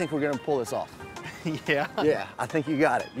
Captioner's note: laughs